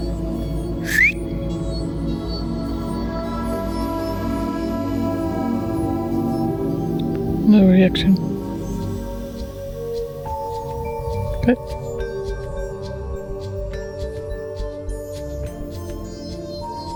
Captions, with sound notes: (whistling) - No reaction. - Okay.